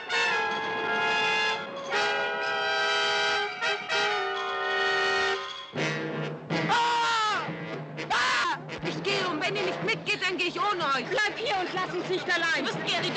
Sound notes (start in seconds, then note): 6.7 Gary yelling